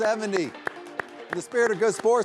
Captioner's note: audience and applauding